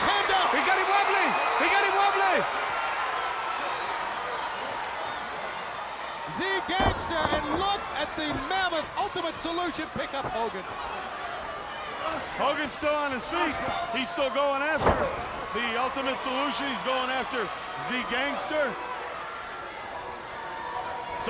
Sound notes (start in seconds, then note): 3.2 crowd cheering